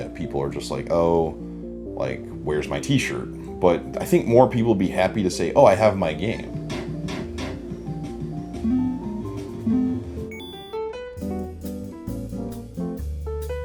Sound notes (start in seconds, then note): 6.9 video game sounds; 11.1 whimsical music